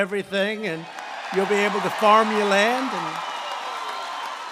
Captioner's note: applause